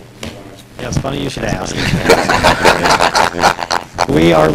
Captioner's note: laughter